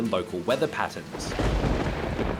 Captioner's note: thunder rumbles